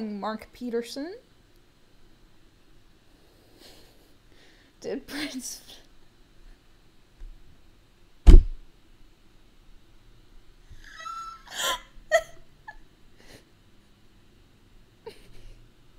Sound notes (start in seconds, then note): 10.8 laughing; 15.5 more laughing